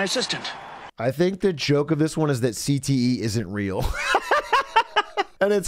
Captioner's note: laughs